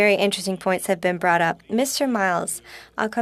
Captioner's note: speaking French